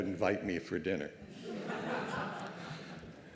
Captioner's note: laughter